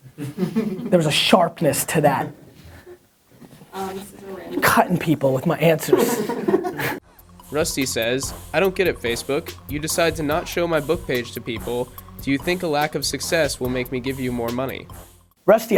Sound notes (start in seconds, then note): 0.1 laughter; 5.8 laughter; 7.5 voiceover